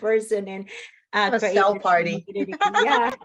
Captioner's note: laughs